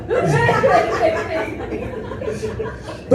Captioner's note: laughter